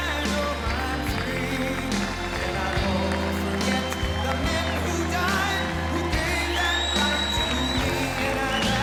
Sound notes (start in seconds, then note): 3.1 applause